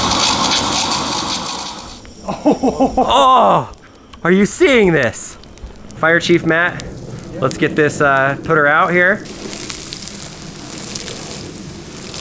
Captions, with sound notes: (laughing) - Are you seeing this? Fire chief Matt. Let's get this...put her out, here. (water spraying)